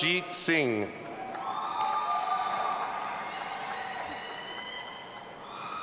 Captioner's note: audience applauding and cheering